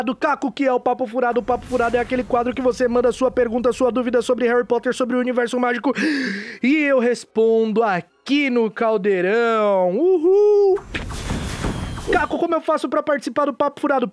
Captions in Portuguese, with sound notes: "Caco, o que é o Papo Furado?" O Papo Furado é aquele quadro que você manda sua pergunta, sua dúvida sobre Harry Potter, sobre o universo mágico... [respira fundo] E eu respondo aqui no Caldeirão! Uhul! [fogos de artifício] "Caco, como eu faço pra participar do Papo Furado?"